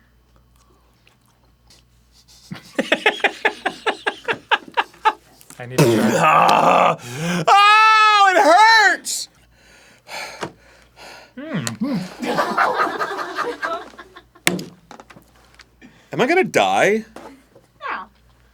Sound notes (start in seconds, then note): 7.5 pained wailing; 10.0 panting, defeated; 11.8 audience laughter; 14.4 table slap